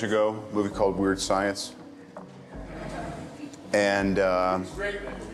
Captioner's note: press laughs